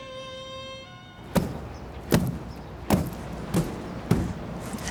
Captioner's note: broom thudding